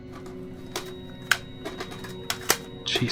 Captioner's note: cassette fed into player